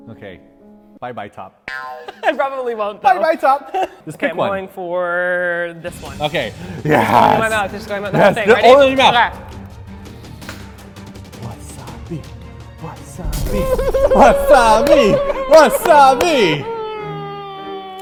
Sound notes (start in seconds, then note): 13.4 chanting; 13.7 crying